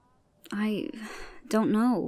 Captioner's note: sighs